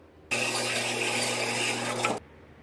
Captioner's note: band saw cutting metal